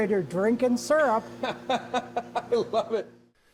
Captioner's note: laughs